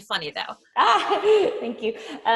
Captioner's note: laughing